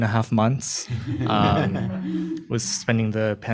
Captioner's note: chuckles